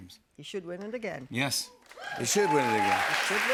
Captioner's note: cheers and applause